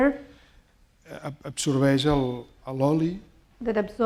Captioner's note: speaking spanish